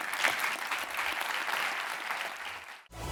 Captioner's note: applause